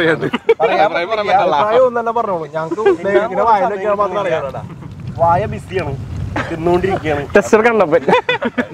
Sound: everyone chatting enjoying the food

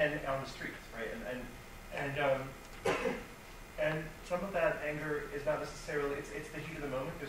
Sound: coughs

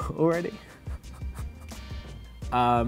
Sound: laughs

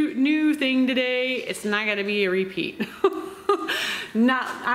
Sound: laughs

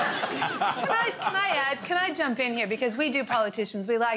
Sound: laughter

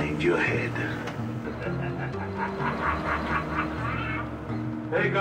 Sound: laughing

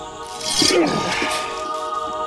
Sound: metal scrapes; sword rings

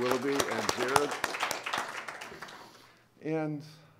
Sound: applause

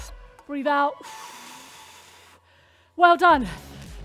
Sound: exhaling heavily; electrifying music

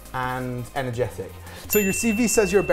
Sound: bell dings

